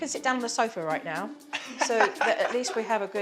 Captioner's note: laughs